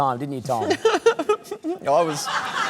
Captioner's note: laughs awkwardly